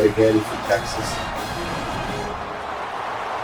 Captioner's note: crowd Noises